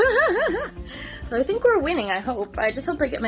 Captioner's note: laughs